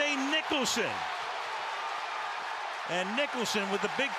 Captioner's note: crowd cheers